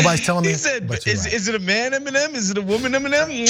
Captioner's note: laugh